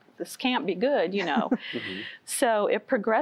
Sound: giggling

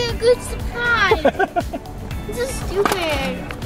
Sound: laughs

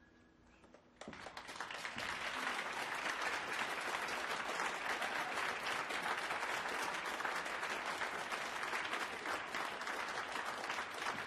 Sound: applause

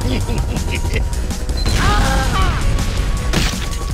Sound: Spy cries out in pain

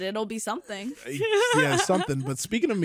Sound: laughs quickly

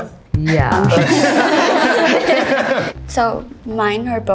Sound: everyone laughs

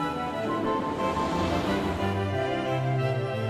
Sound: traffic whirs; classical music

